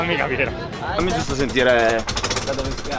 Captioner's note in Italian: suono di motore affaticato